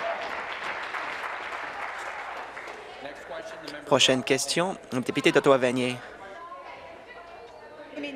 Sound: applause

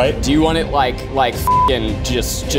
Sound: beeping

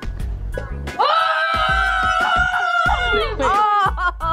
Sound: children cheers

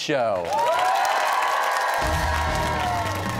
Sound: cheers and applause

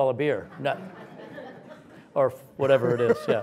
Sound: audience laughs

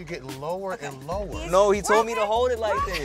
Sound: laughs

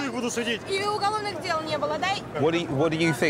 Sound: speaking in foreign language

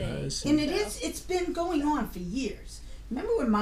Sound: voiceover

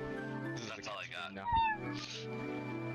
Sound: mew

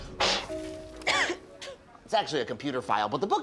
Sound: coughs

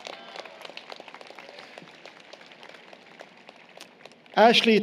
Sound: applause, Cheering

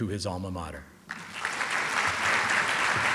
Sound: applause

